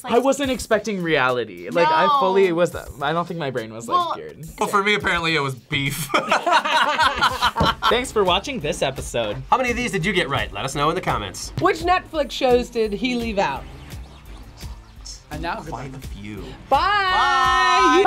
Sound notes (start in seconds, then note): 6.0 both laugh; 14.2 whispers